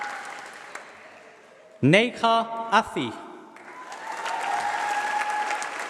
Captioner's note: applause